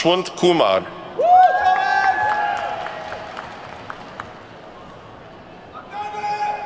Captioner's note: attendees whooping and clapping